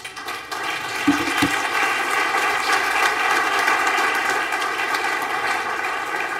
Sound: applause

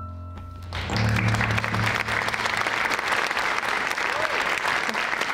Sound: audience applauding

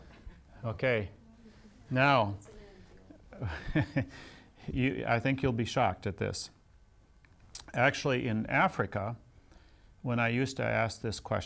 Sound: laughs

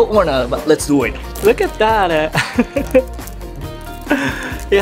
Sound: chuckles

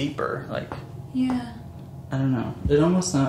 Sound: tapping

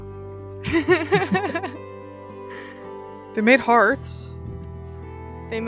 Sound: laughter

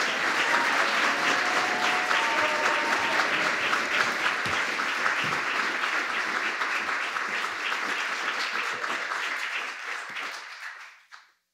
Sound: applause

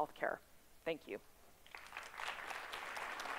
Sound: applause

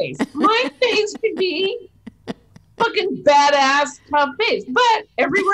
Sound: beep

